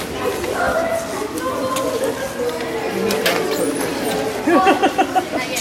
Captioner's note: students talking; laughing